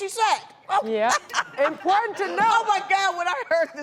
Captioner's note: laughs